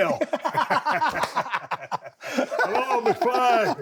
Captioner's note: Sami laughs